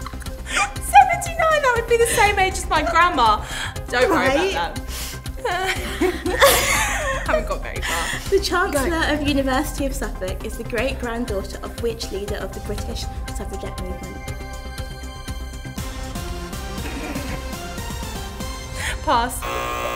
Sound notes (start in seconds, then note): 3.6 laughs